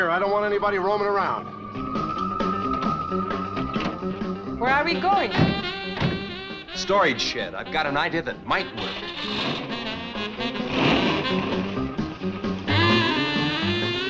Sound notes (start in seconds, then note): 0.7 suspenseful music; 8.8 engine revving